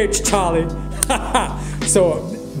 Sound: laughing

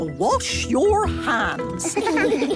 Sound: children giggling

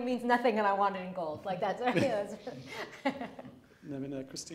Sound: laughing

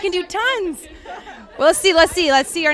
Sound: laughs

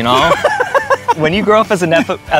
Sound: laughs

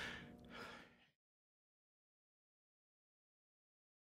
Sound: silence 08:35

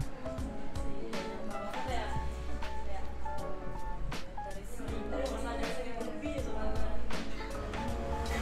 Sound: indistinct chatter

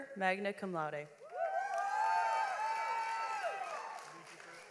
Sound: audience applauds

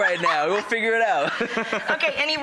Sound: laughs

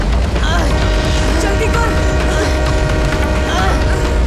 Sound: train horn blares

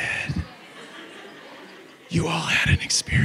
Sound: audience laughs

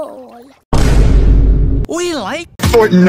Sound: Vine boom

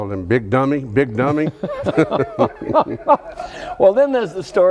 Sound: laughs

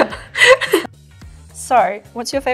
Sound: laughing

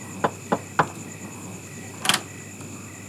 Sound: louder knocking; door creaks

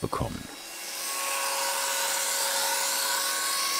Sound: grinding noise

